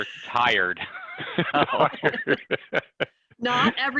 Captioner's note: both laughing